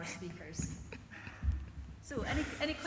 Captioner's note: giggles